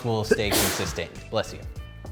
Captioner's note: sneeze